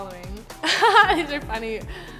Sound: chuckling

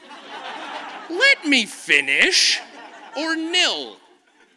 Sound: audience laughs

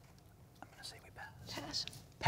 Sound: whispering

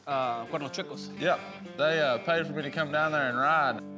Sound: speaking spanish

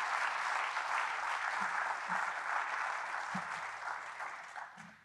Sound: audience applauding

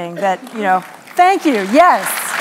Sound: applause

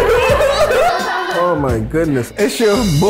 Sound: group laughs

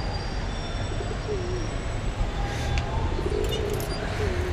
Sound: pigeon cooing sound

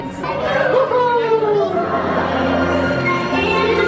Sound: man cheering

